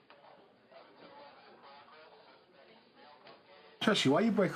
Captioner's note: police radio chatter in background